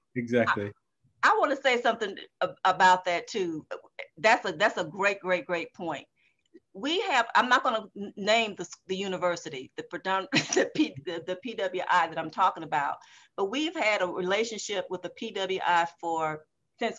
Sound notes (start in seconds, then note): 10.3 laughing